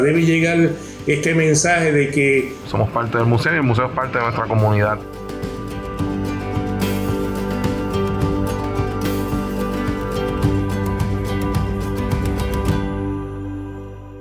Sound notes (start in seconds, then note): 3.1 speaks foreign language; 6.2 soft music